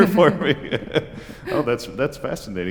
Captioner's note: laughter